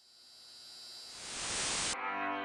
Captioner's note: lights buzzing; transition to static